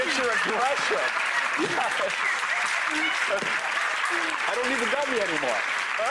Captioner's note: audience applause